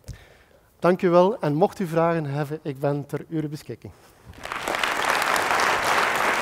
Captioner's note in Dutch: applaus